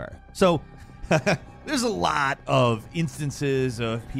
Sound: laughs

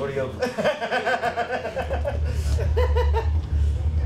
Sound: laughing

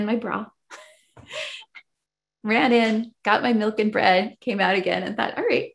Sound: laughs

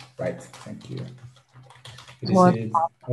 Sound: keyboard clattering

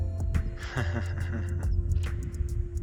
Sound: ominous laugh

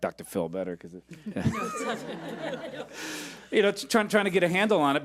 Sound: laughing

